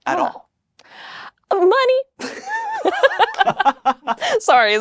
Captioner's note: both laugh